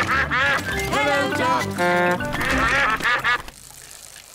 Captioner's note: toots horn; all quack